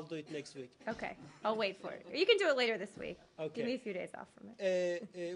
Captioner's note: laughter